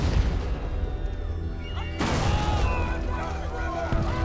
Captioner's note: explosion; panic and screaming